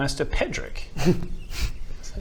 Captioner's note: scoffs